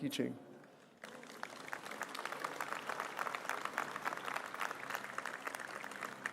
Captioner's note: applause